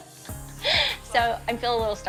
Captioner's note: laughs